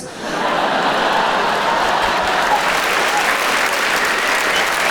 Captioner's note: audience laughs and applauds